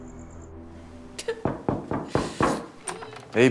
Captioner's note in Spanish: Toques en la puerta